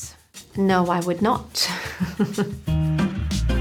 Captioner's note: laughs; upbeat music